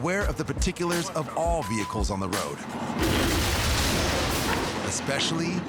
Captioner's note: truck crashing